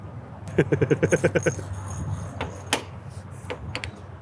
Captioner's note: chuckles